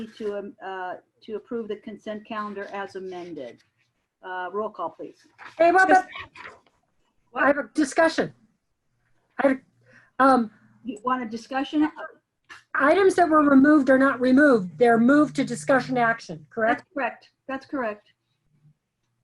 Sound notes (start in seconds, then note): 5.4 members chattering